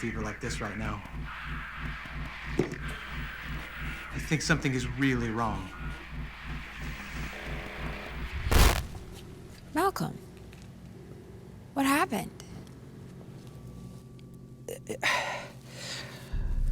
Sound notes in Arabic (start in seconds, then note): 15.7 زفير بعمق